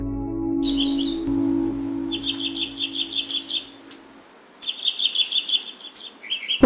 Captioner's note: birds chirping